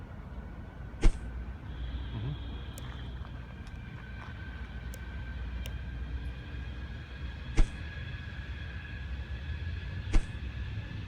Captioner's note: swiping